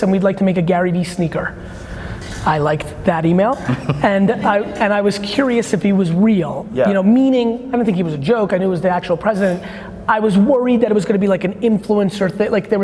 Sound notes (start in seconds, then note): 3.6 laughing